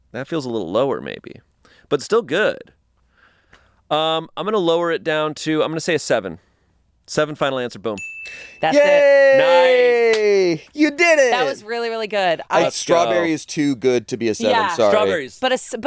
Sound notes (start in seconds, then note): 8.0 bell rings; 10.0 claps